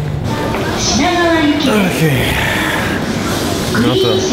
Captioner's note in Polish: wzdychając